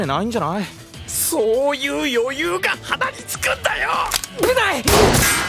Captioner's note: fires a bullet